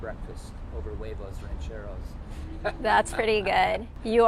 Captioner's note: laughing